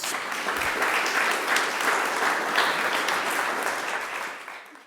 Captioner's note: audience clapping